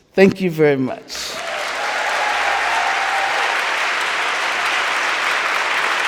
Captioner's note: audience cheering and applauding